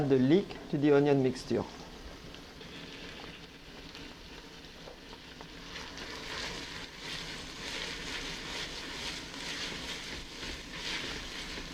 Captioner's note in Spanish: sonido revolviendo